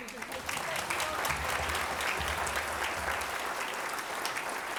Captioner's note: audience applauds